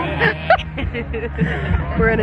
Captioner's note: both laughing